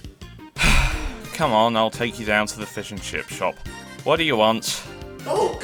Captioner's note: sigh